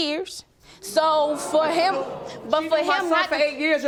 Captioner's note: audience gasping